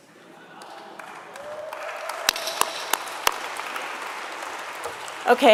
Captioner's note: audience laughs and applauds